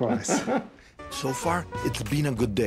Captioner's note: laughing